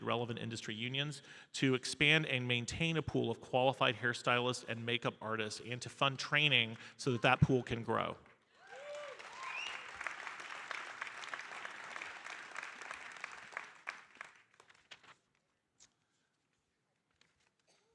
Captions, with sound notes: relevant industry unions, to expand and maintain a pool of qualified hairstylists and makeup artists and to fund training so that that pool can grow. (audience applauding)